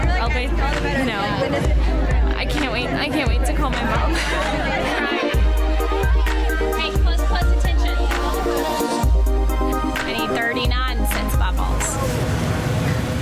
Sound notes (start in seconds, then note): 4.1 upbeat music; 4.8 women cheering